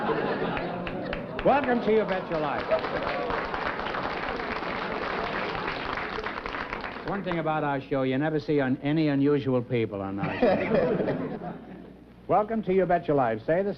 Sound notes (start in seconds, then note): 3.2 applause